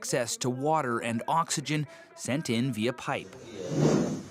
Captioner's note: speaking alternate language